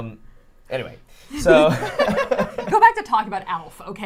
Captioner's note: everyone laughs; laughs